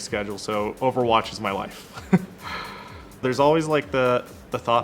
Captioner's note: laughing